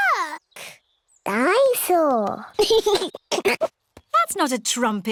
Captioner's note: giggles